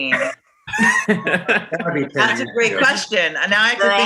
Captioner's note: actors laughing